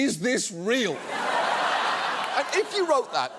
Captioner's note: audience laughs